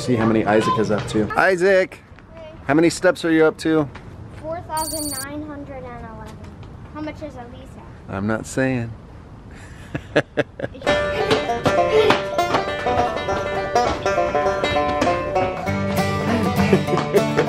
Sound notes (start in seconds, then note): 9.9 laughing; 11.0 bluegrass music